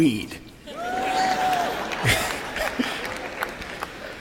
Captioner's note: cheering and applauding crowd